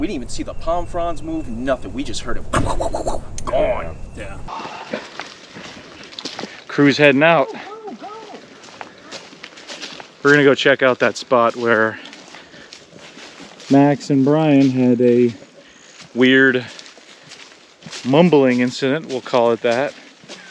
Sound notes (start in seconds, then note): 6.2 feet crunching